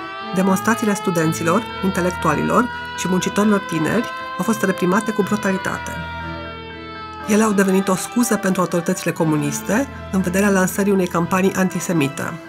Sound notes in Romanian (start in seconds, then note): 5.6 sirene